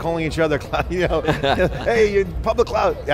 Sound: laughs

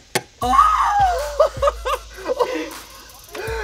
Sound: screaming

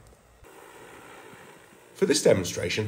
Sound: drone whirring

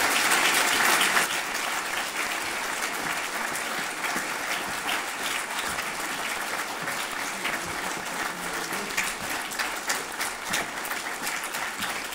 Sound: applause

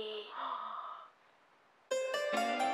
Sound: gasps; upbeat music

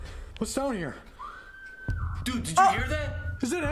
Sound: girl screaming

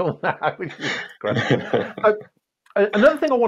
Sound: laughter

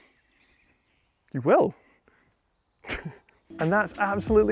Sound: laughs

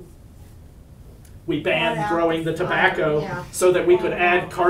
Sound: woman calls out

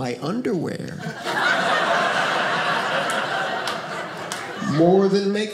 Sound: audience laughing

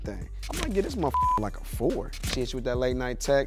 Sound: beep

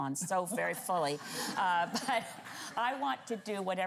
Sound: laughter

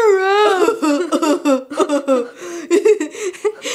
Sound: imitates Patrick laughing; chuckles

